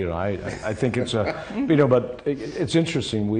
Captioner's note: laughs